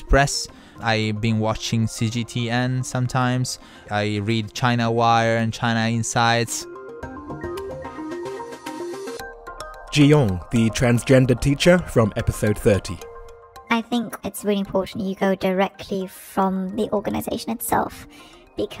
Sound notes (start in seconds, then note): 7.5 voiceover